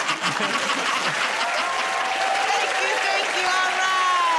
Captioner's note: laughter; cheers and applause